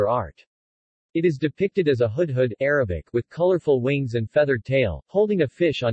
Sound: Arabic

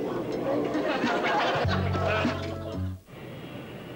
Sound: laugh

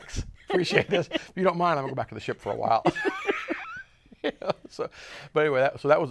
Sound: laughs; laughs

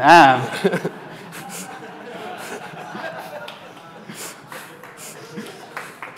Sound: laughter

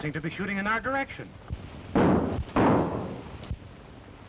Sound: gunshots

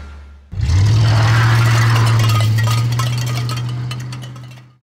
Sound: car engine with can clanging

